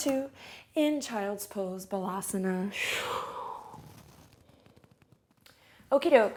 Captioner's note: breathes out heavily